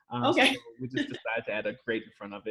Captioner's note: laughs